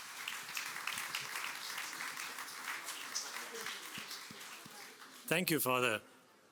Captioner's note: applause